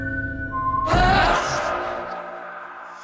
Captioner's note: ghostly shouting